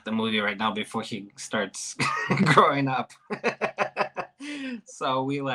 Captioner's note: chuckles